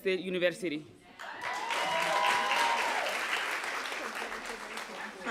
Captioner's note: applause